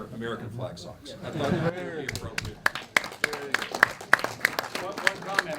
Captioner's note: applause